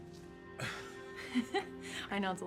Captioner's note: laughing